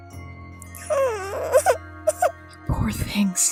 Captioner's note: Mistykit cries